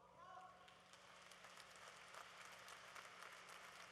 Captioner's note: applause